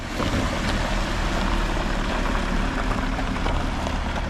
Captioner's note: vehicle engine hums